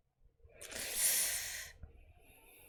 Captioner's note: sharp inhale